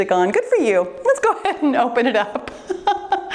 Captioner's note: laughs